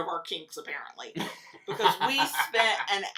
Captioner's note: laughs